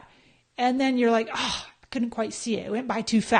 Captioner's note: sigh